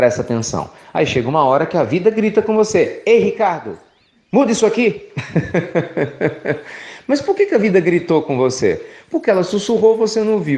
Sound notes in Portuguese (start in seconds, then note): 5.1 Risos